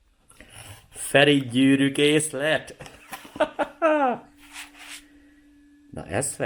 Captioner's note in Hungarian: nevetés